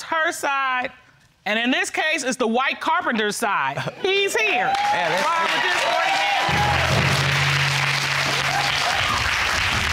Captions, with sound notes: There's her side. And in this case, it's the white carpenter's side. He's here. Ron, would you escort the man? (AUDIENCE EXCLAIMING, APPLAUDING)